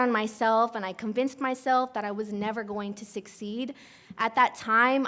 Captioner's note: sighs